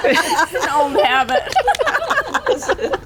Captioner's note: laughter